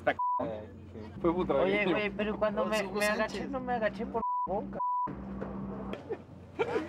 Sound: beep

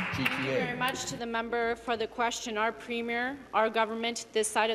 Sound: applause

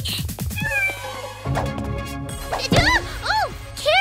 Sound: kitty meows

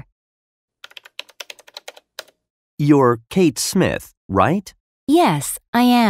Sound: typing sound

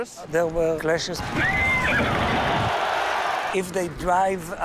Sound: crowd cheering

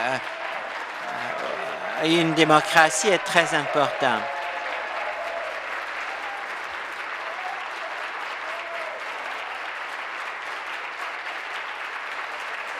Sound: applause

